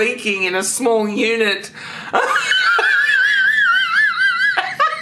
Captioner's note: laughs